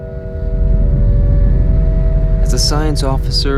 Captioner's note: ship rumbling